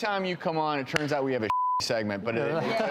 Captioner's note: beep